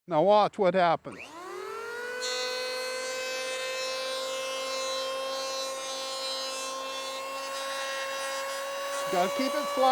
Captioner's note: planer whirring